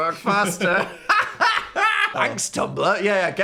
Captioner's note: both laughing